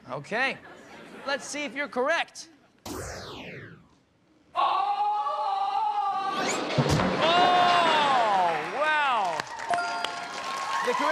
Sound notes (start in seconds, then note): 4.7 men yelling